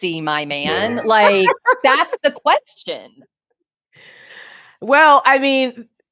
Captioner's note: laughs